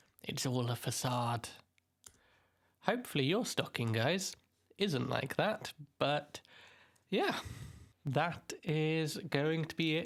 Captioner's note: normal voice